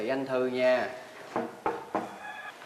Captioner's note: knocking sound